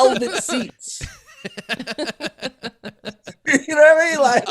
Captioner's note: laughing